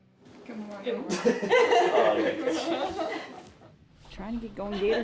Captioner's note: all laughing